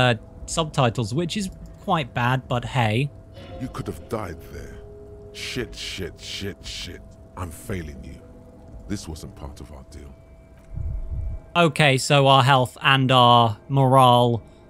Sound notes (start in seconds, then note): 10.4 heart beat SFX